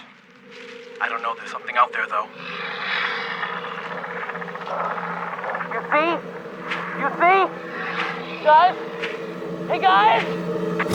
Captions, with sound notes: I DON'T KNOW. THERE'S SOMETHING OUT THERE, THOUGH. [ CREATURE GROWLING ] YOU SEE? YOU SEE? GUYS! HEY, GUYS?!